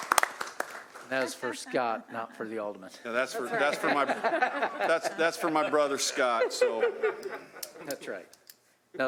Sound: applause

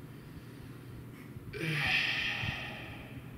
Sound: pained sigh of post-purchase clarity

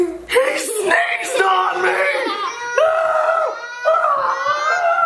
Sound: screams

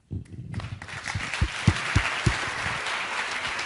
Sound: applause

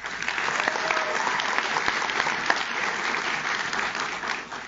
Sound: audience claps

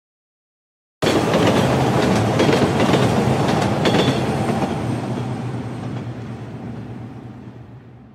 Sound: train passing

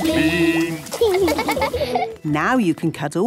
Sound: laughing

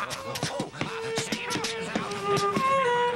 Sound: tapping & Shuffling

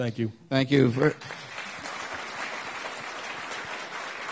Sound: applauding

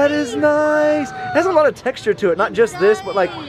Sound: gasping

